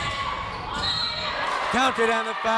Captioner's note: whistle